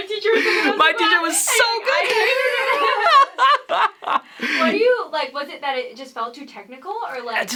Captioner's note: laughter